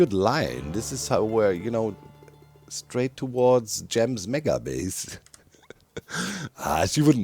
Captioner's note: chuckles